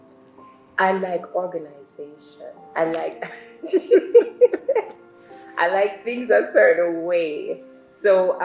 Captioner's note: laughs